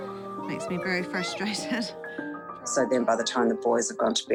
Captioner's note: child shouts